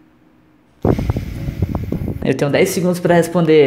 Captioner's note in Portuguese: respira intensamente no microfone